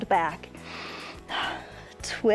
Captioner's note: short exhales; inhales and exhales